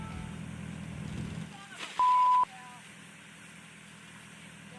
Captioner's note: beep